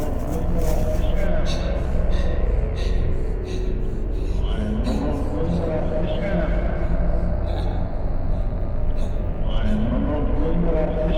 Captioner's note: Rapid breathing as Wanderer runs away